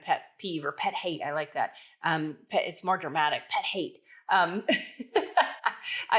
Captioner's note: laughs